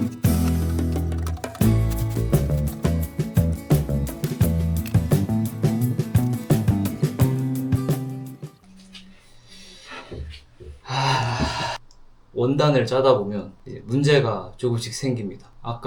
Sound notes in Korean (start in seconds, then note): 10.8 한숨